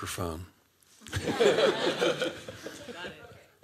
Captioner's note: laughter